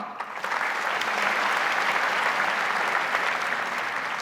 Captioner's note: audience applauds